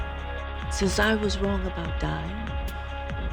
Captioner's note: voiceover